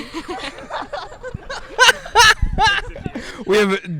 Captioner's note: group laughs